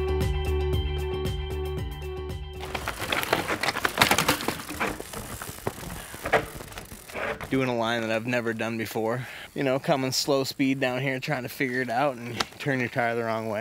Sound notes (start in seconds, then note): 0.0 engaging music; 2.6 bike crashes